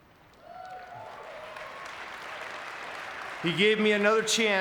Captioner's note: audience cheering